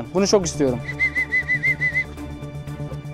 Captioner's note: whistle